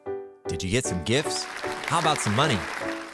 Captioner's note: applauding